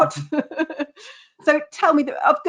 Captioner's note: laughing